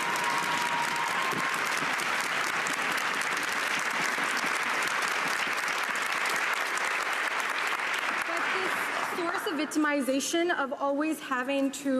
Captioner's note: cheering and Applause